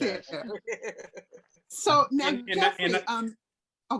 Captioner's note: laughs